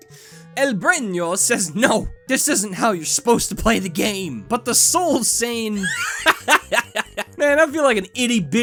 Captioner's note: laughter